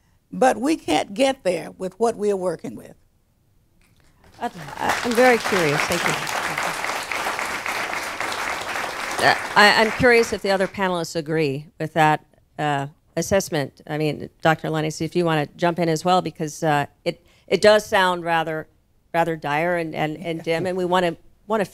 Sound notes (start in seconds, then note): 10.3 applause